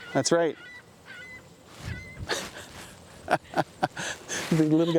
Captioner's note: seagull chirping